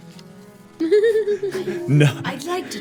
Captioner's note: laughing